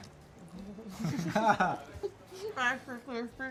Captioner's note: laughing